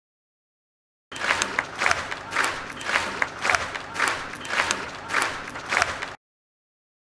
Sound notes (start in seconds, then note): 1.1 sound of clapping